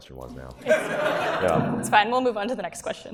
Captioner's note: audience laughs